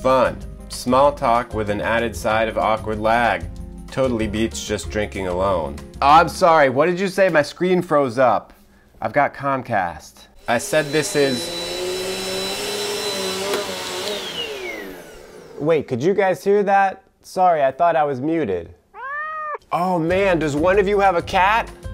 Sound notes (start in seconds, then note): 10.3 vacuum cleaner running; 18.9 cat meows